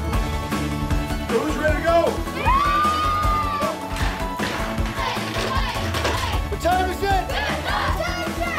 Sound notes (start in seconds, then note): 5.2 cheering; 6.9 team chants